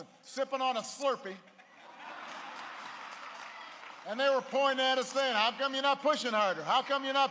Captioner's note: laughter